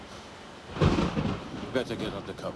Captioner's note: thunder